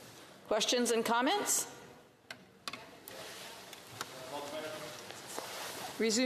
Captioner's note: speaking French